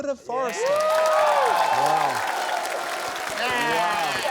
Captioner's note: cheering, applause